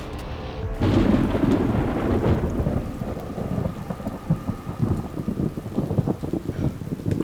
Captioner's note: rain pattering; thunder crackling